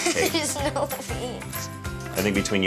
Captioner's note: laughs